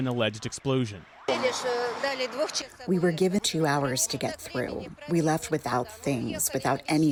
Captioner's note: through translator